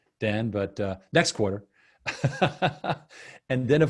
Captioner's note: laughing